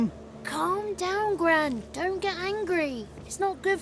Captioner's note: none